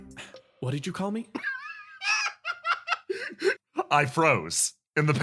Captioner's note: laugh